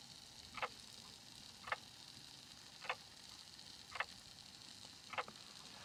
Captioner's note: clock continues ticking